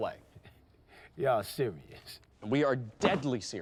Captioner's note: chuckles